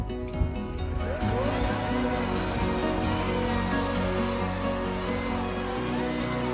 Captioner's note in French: bruit de scie à chaine électrique